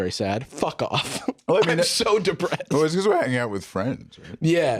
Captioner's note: laughing